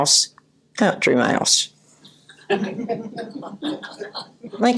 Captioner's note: audience laughter